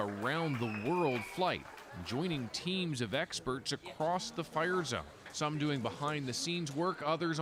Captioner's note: applause